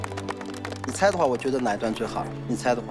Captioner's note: cheering